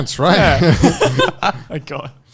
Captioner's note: all laughing